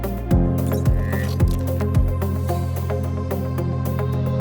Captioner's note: dynamic music; gears whirring